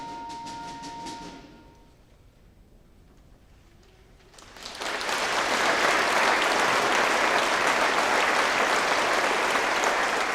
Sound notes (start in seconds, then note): 4.3 audience applauding